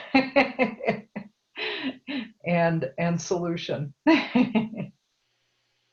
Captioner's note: laugh